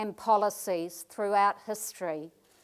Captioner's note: none